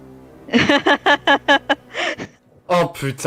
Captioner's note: laugh